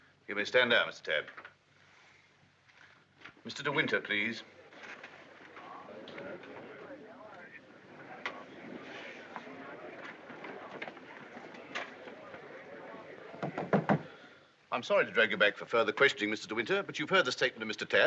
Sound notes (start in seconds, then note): 6.0 people murmuring; 13.3 gavel pounding